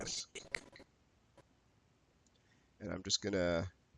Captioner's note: audio skipping